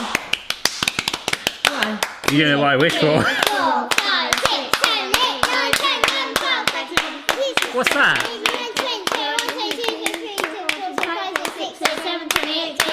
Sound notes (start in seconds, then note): 0.0 clapping; 7.0 clapping; 8.6 clapping, counting